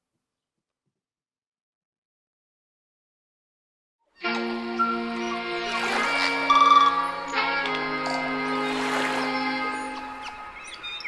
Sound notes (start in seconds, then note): 4.2 bright music; 4.3 waves crashing